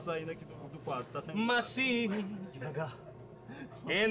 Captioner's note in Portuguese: cantarolando